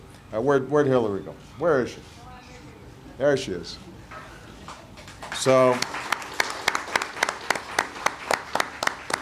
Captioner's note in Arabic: تصفيق